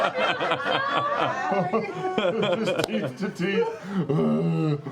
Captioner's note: laughter; growl